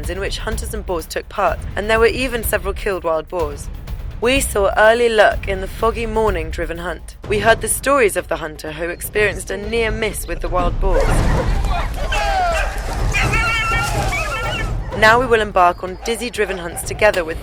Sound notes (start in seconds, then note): 12.8 dogs barking; 12.8 drivers yelling